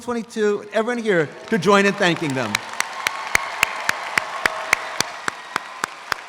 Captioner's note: audience applauds